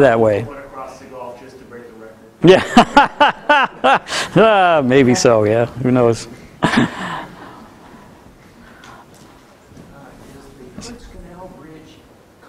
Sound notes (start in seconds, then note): 2.4 laughter